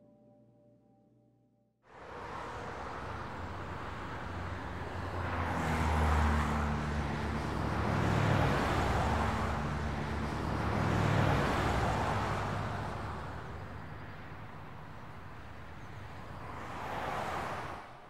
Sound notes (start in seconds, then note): 5.4 cars passing